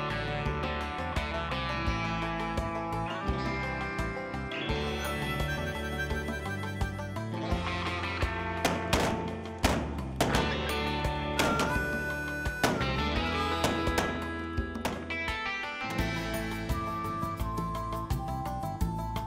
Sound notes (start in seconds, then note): 8.6 gunfire